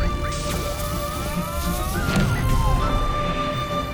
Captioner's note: yelling